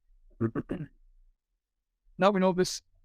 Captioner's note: coughs